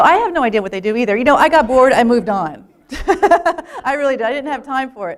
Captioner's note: laughter